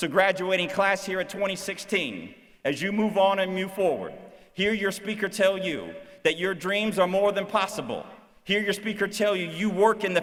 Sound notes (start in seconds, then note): none